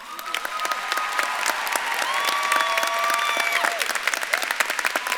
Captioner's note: audience claps and cheers